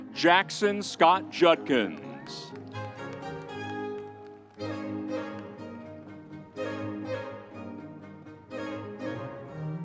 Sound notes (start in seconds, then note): 2.7 audience cheers; 2.7 vibrant music continues